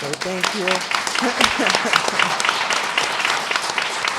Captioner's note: applause